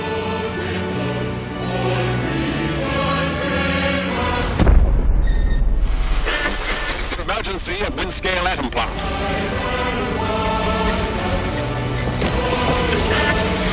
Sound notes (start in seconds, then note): 6.1 explosion; 9.1 radio voice